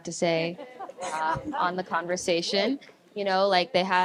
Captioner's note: audience laughs